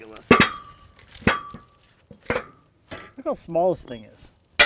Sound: metal clanging

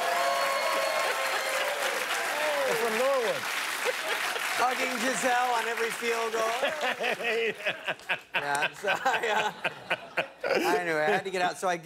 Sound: cheers and applause; laughter

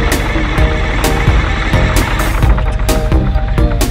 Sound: engine trying to start

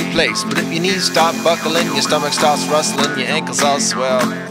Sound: belt sander noise

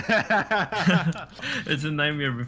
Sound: laughter

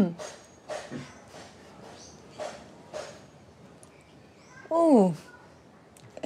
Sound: sound of Hammer In The Distance

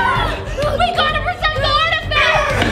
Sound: screams

